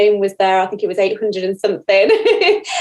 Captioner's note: laughs